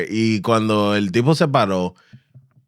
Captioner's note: speaking In Foreign Language